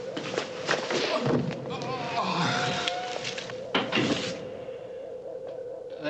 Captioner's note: thudding; groaning